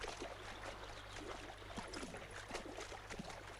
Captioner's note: water splashing